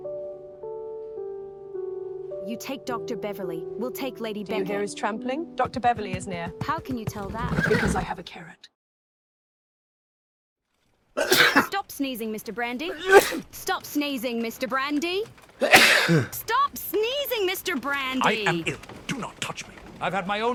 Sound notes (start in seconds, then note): 11.2 Hopkins sneezes; 12.9 Hopkins sneezes; 15.6 Hopkins sneezes